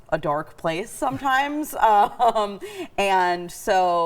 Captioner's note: chuckling nervously